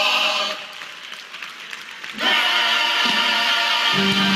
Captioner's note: applause